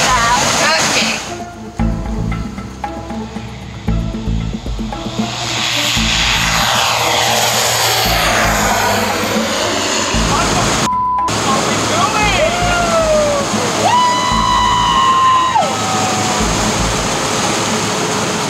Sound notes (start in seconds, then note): 2.3 suspenseful music; 5.7 airplane engine accelerating; 13.8 screaming